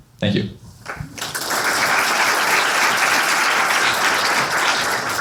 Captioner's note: applause